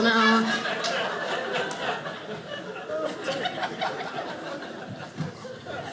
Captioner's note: audience laughing